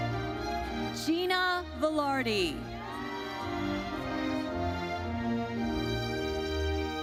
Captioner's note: audience cheers